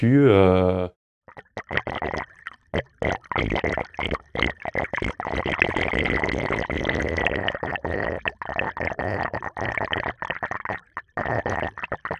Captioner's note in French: Son : Glouglou de l'eau dans un égout